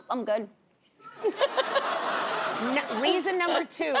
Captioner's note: laughs; audience laughing